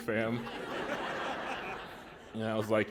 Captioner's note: laughter